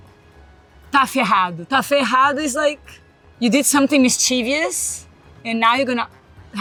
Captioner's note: speaks Portuguese